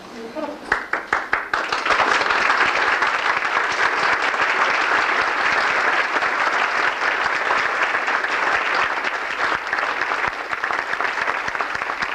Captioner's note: welcome applause for shri mataji